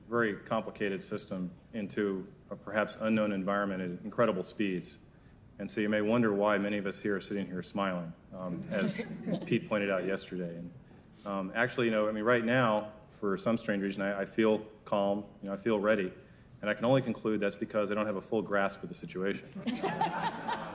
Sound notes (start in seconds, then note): 8.5 crowd laugh